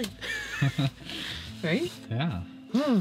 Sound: laughs

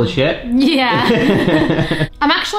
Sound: both laughing

